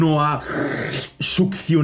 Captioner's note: suction